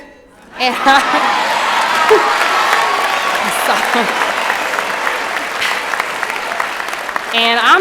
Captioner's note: applause and Cheering